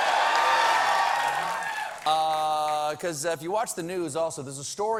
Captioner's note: cheers and applause